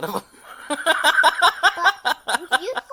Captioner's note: laughs